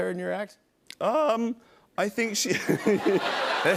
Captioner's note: voice cracking; laughter